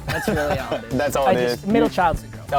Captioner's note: laughing